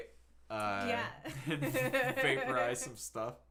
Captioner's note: laughing